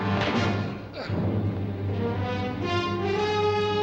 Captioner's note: grunting